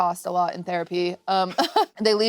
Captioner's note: chuckles